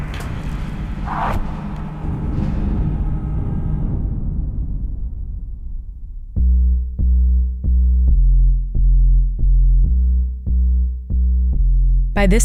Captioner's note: soundbite of arrows firing